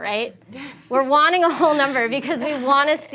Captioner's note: students laugh